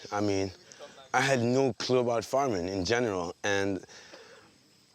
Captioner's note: none